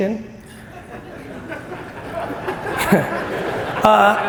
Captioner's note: audience laughs